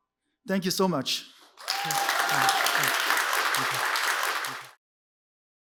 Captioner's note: applause, cheers